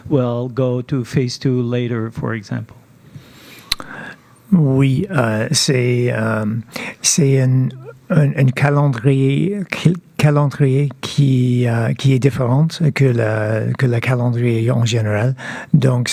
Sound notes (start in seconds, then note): 4.5 speaking French